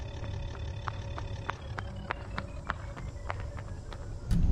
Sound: rapid, Panicked footsteps

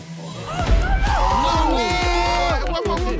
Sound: players cheer

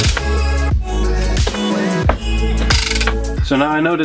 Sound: gear cranking

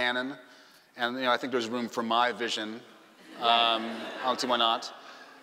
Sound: laughing

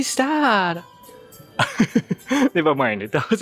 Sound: chuckle

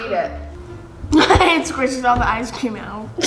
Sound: laughs

